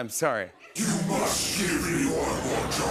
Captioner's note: deep, rattling voice